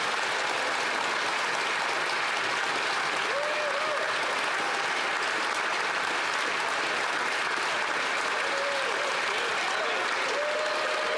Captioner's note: applause